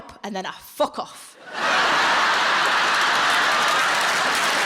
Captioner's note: audience laughing; audience applauding